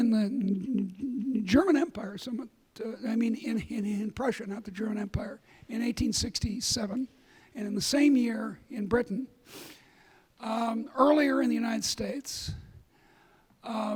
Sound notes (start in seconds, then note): none